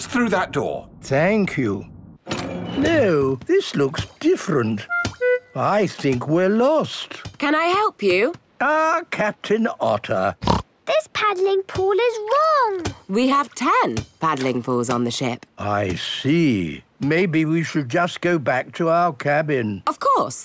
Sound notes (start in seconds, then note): 10.4 snorts